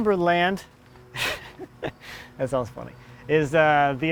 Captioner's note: laughs